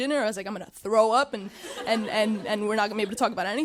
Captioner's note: audience chuckling